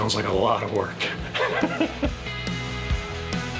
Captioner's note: laughing; upbeat music